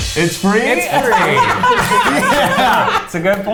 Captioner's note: everybody laughing